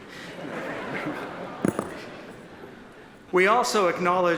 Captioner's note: audience laughs